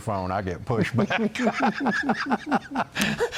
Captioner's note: laughter